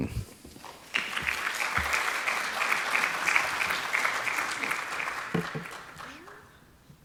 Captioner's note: applause